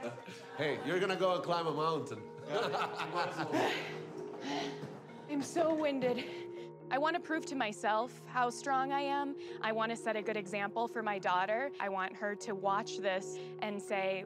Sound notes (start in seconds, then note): 2.4 laughs; 3.3 panting